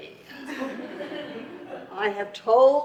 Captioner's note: audience laughs